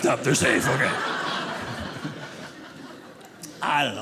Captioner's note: audience laughing